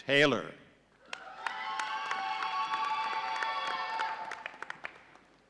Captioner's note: audience cheering